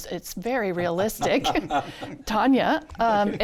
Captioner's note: all laughs